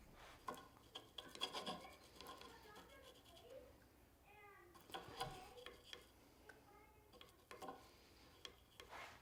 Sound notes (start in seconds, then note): 0.0 brush swishing; 0.7 children speaking faintly